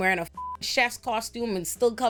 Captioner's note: beep